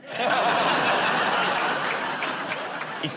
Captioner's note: laughter